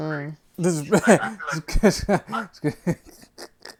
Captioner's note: laughter